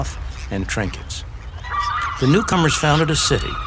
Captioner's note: seagulls squawking